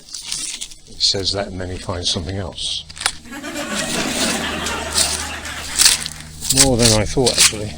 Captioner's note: laughter